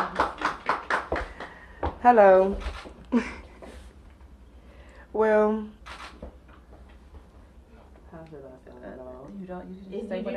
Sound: applause

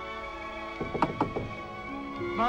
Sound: knocking

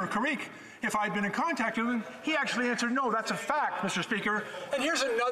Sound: conversation din

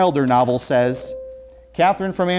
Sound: beeping

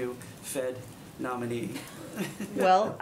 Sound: laughter

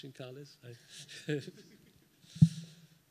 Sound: laughs

